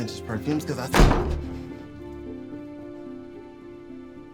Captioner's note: door slamming